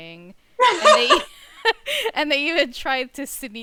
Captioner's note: laughs